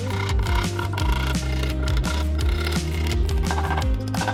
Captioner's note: drill whirring